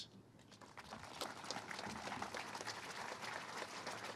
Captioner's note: all applauding